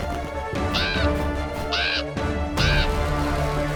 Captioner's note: crow calling